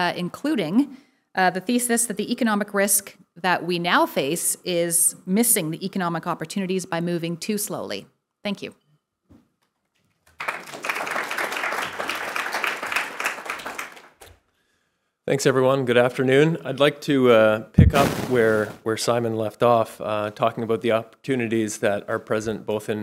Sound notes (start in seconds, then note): 10.2 audience applauding